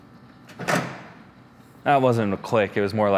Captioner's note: grill thuds